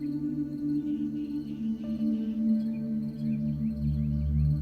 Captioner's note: birds chirping